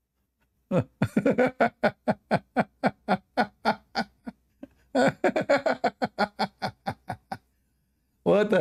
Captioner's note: Ketawa